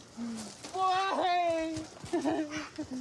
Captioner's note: sobs